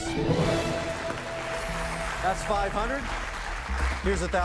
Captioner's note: cheers and applause